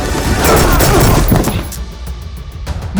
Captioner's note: trigger clicks empty